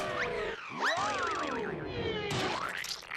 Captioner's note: screams